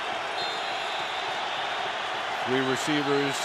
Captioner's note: whistle